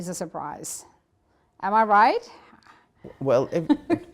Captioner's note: laughing